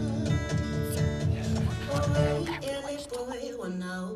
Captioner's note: chuckles; whispers urgently